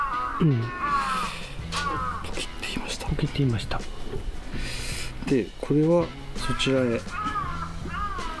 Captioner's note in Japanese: 枝が折れるような音がしました。